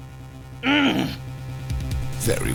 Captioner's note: frustrated grunt